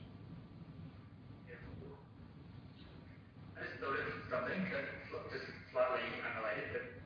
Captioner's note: audio distorts